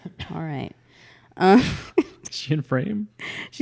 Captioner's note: laughs